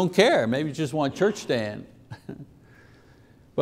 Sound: chuckles

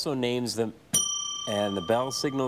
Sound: bell dings

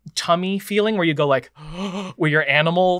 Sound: gasps

